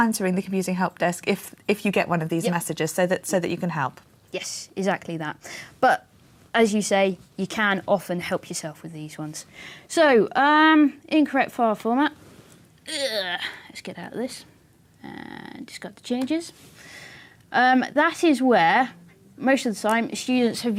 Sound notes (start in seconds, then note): 12.3 grunt